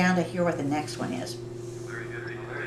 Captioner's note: calculator voices